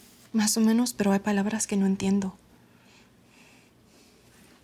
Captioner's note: speaking Spanish